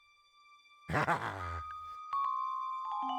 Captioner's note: giggling